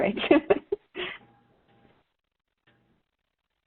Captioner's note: chuckles